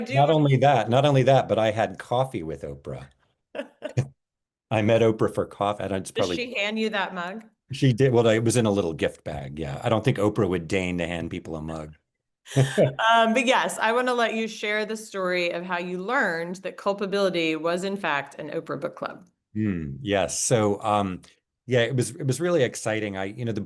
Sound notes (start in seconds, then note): 3.5 laughing; 12.5 laughing